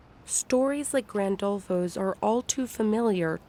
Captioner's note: voice-over